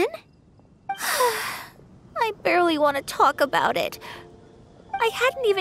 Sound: sigh

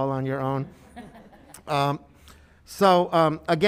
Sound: attendees laughing

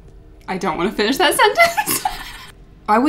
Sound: laughs

